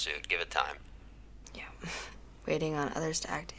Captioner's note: scoffs